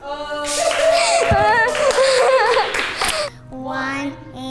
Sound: laughing; offscreen cheering

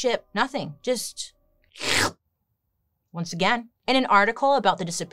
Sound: slurps

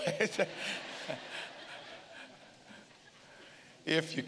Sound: congregation laughing

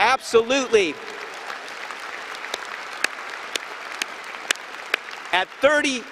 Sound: applause and cheering

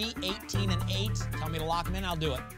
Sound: none

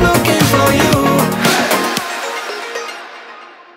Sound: crowd

